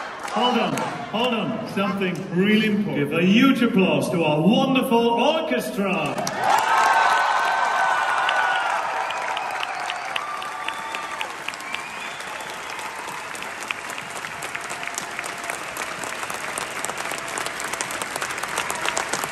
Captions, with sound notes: Hold on, hold on. Something really important: Let's make a huge applause to our wonderful orchestra! (CROWD CHEERS)